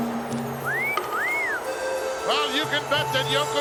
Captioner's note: commentator whistles